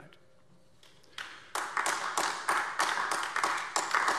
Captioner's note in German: Beifall AfD